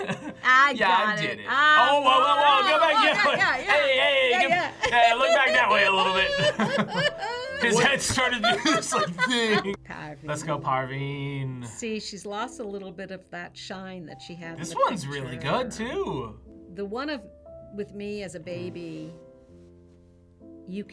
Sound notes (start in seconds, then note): 6.4 both laugh